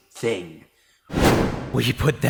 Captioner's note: thud!